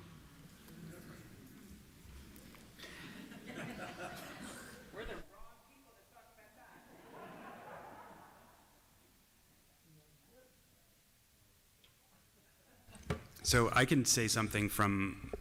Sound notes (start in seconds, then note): 6.8 laughter